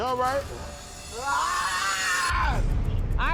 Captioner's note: screaming